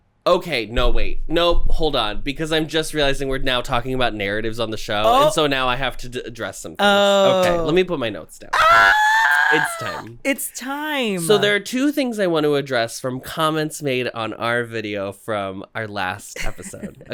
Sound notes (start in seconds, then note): 8.5 squealing